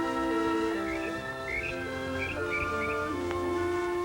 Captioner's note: chirping